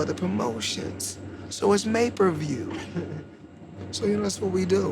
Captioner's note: laughter